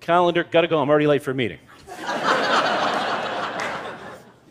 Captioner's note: laughter